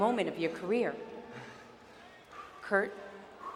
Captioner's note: Kurt panting